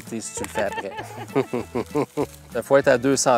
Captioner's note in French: rires